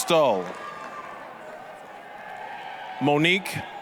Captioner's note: applause, cheering